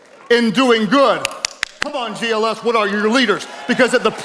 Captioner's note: claps